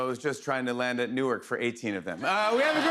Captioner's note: laughter